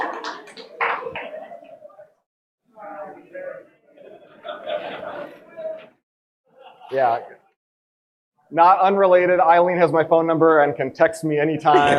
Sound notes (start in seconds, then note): 0.9 audience indistinctly talking and laughing